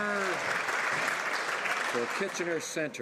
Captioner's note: some Applause